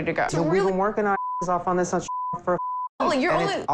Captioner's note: beep